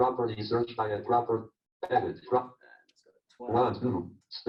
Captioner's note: JAWS speaking disjointedly